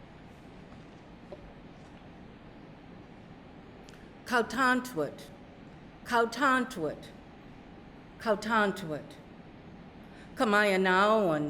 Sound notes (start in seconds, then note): 4.3 speaking narragansett